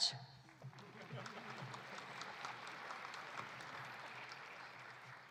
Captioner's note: audience applauding